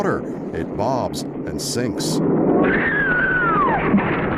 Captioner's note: screams